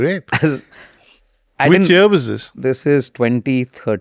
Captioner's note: laughs